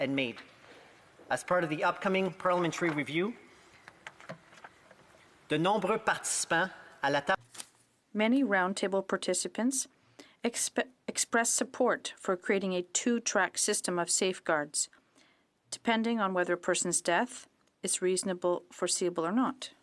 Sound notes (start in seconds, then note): 13.6 speaking french